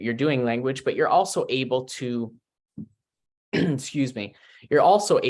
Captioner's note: clears throat